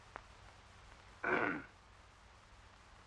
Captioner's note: clears throat